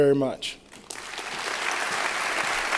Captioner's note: applause